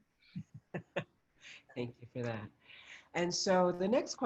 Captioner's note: laughs